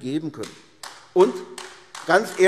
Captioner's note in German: Beifall AfD